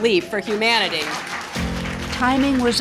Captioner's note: audience applauds